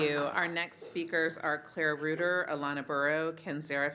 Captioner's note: applause